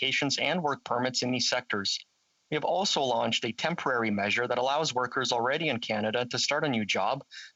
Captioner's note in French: voix de l'interprète